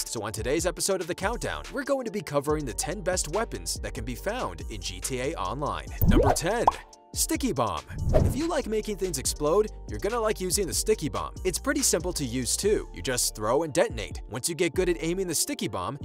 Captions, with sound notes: so on today's episode of the countdown, we're going to be covering the 10 best weapons that can be found in GTA Online. Number 10, (bubble popping) sticky bomb. (whooshing) If you like making things explode, you're going to like using the sticky bomb. It's pretty simple to use, too. You just throw and detonate. Once you get good at aiming the sticky bomb,